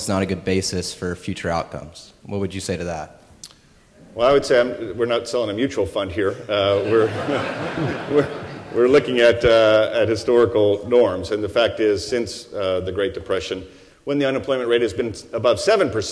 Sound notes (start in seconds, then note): 6.6 laughter